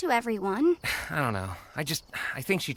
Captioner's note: sighs